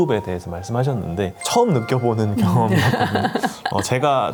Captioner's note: chuckles